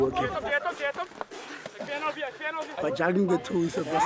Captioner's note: shouting in afrikaans